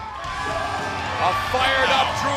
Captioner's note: cheers and applause